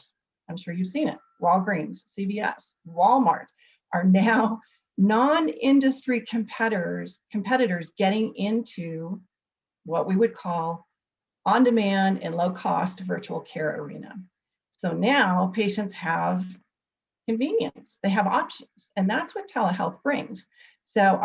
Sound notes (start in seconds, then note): none